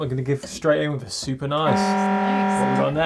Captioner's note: siren beeping